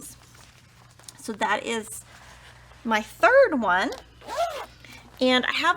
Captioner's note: zipper vibrates